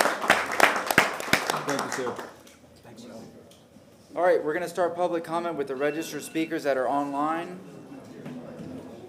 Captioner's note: applause